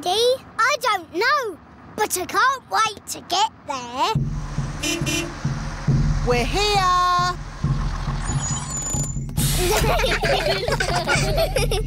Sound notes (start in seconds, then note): 4.6 horn beeps; 9.5 children giggling